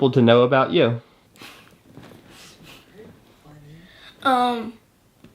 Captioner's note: chuckling